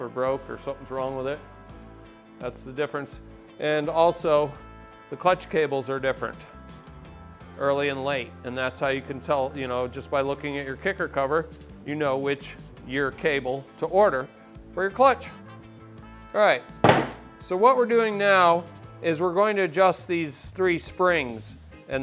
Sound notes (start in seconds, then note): 16.8 tool clunks on table